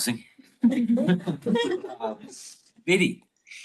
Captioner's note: group laughs